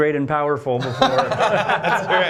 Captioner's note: laughter